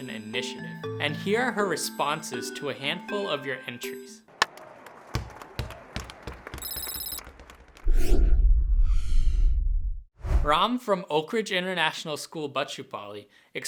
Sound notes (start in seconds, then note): 5.1 baseball hit; 5.1 basket ball bouncing; 7.8 deep whoosh